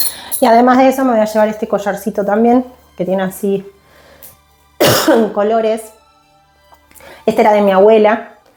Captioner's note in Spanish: carraspeo